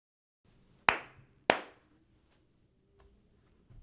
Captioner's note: claps hands twice